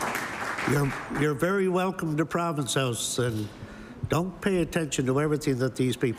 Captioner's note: applause